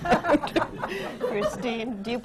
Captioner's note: laughter